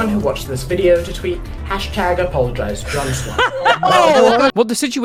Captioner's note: laughter